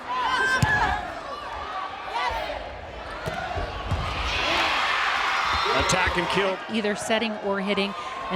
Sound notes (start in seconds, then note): 0.5 players yelling; 4.5 crowd and players cheering